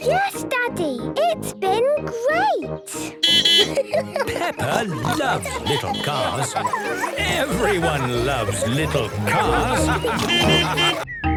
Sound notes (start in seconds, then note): 3.2 beeping and laughing; 9.2 laughter; 10.1 beeping